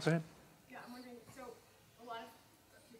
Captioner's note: voiceover